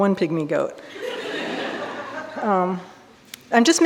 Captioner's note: audience laughing